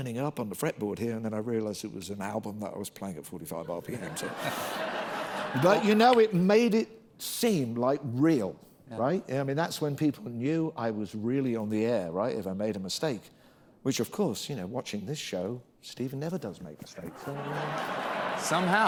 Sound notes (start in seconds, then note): 15.3 laughter